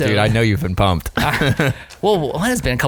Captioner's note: both laughing